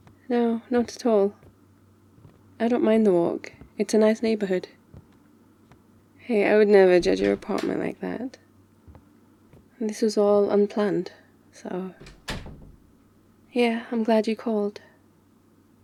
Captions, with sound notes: no, not at all I don't mind the walk, it's a nice neighbourhood hey, I would never judge your apartment like that *door opens* this was all unplanned... so *door closes* yeah, I'm glad you called